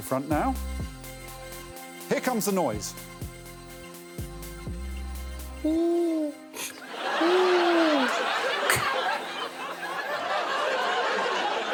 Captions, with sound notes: They're making their way to the front now. Here comes a noise. [Alan hoots] [all laughing]